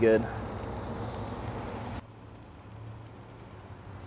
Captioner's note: pork sizzles